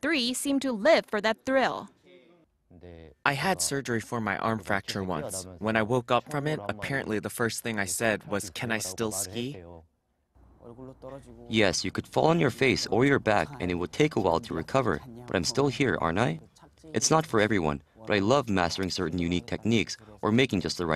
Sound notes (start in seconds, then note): 2.0 Korean; 10.2 Korean